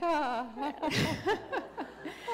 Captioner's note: laughter